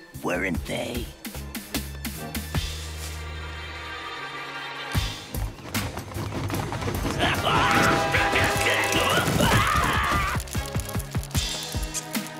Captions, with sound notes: Weren't they? [Footsteps running] [Fizz screaming]